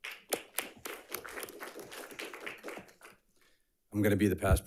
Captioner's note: audience applauds